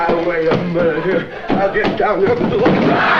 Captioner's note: muttering